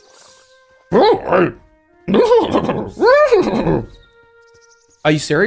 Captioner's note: yoda horse noises